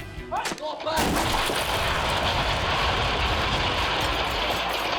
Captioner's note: bricks clattering